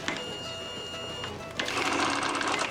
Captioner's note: register beeping, cranking